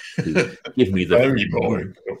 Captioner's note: laughing